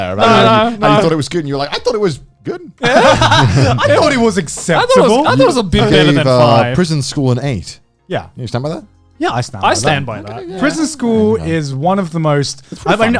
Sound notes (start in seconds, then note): 2.8 laughs